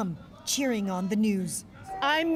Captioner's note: chants